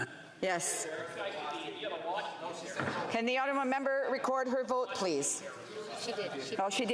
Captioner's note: speaking French